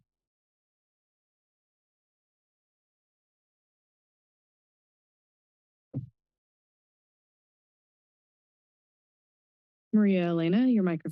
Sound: silence

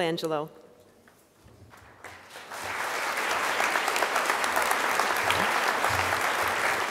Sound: crowd applause

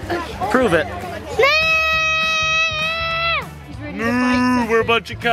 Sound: imitating cows

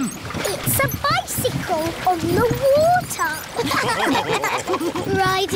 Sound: all laughing

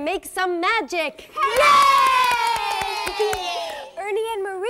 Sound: cheering and clapping

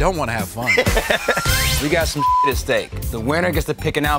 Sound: laugh

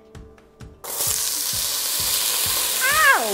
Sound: sizzling

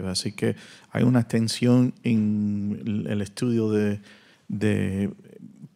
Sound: audience member continues in Spanish

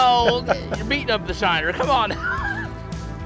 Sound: laughs

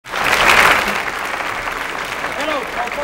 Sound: crowd clapping

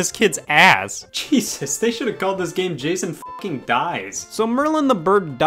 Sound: beep

